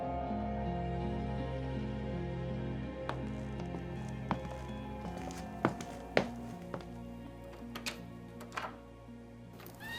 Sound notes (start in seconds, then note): 0.2 music fades; 3.1 footsteps; 7.6 door opening, and closing